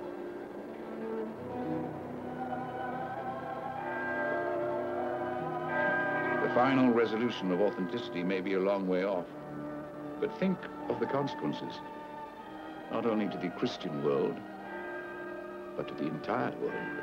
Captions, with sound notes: (bells chiming) (celestial choir singing) The final resolution of authenticity may be a long way off, but think of the consequences, not only to the Christian world, but to the entire world.